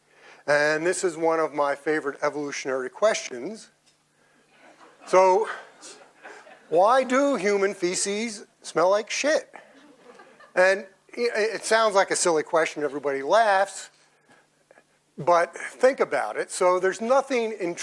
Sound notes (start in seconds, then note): 9.7 audience laughs